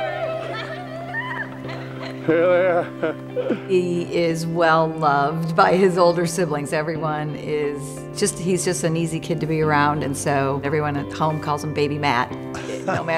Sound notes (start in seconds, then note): 3.0 laughs